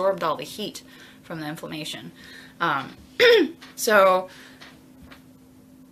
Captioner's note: clears throat